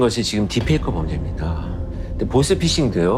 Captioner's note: heavy sound effect